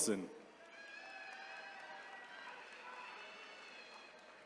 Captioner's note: attendees cheering